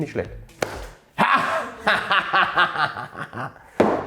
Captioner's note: laughs